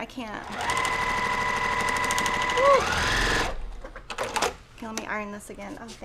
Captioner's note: sewing machine roaring